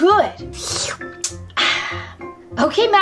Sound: slurps and exhales

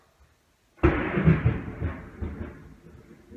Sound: loud thunder crash

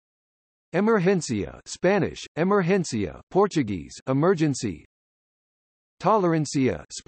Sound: Spanish

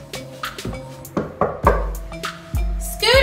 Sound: knocking noises

